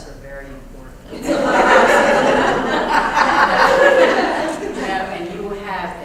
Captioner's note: laugh